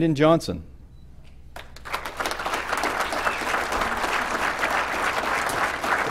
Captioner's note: applause